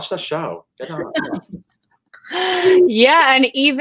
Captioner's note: giggle